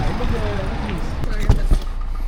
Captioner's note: Scratch